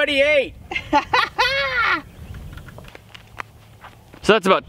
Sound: laughing

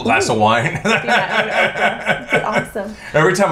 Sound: quietly

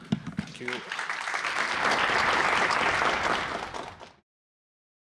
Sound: applause

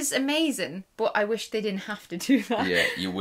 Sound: laughs

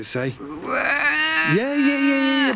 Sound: makes a growling, moaning sound

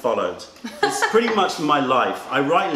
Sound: laughter

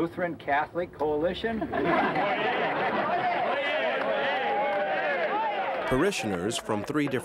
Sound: laughing

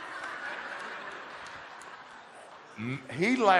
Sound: audience laughter

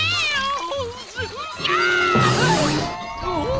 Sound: screaming

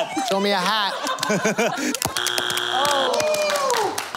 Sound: buzzer

